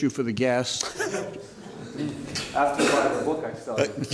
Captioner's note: laughter